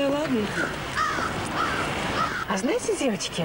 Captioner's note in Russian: ворона каркает